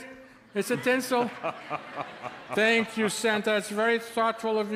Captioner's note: Santa chuckles